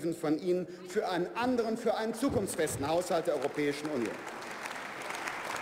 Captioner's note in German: Beifall bei der FDP